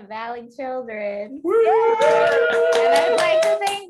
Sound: cheering and clapping

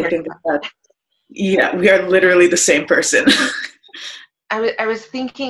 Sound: chuckles

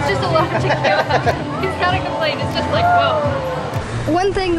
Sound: laughter

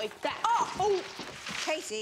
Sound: clattering; yells

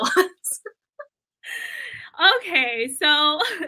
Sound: laughter

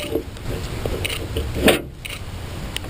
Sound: metal scraping

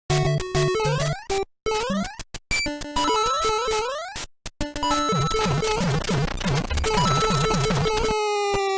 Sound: beeps n blips

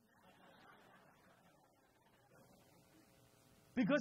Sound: crowd laughs

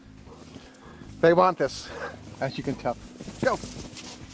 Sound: dogs barking

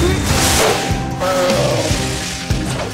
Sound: grunting

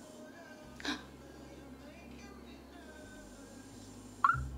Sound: gasps

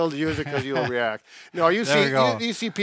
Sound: laughing

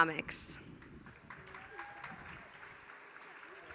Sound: applause

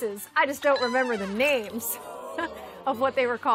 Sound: audience oh-ing

